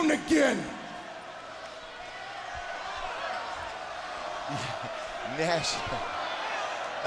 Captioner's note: crowd cheering